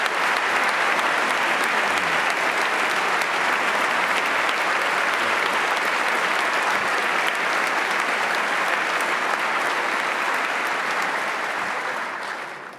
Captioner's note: applause